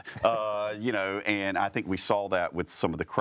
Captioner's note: chuckling